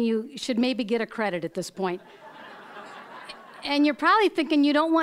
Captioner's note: audience laughing